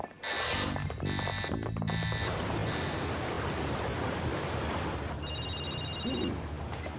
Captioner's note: alarm sounding; phone ringing